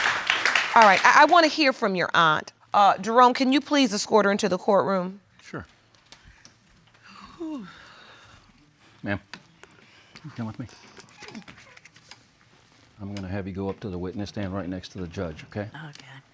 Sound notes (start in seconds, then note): 7.0 sighs